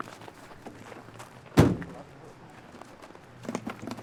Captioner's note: car doors shut